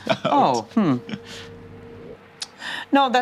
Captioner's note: chuckles